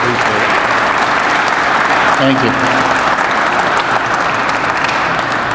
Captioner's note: crowd applauds